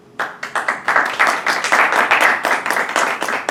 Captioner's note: applause